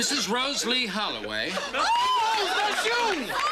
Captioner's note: exclaims